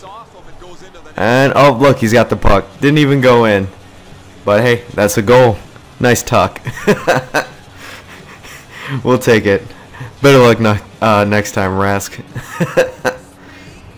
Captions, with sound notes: and... oh look, he's got the puck didn't even go in. but hey, that's a goal. nice tuck. (laughing) we'll take it better luck next time Rask